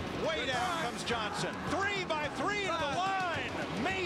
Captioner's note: cheers & applause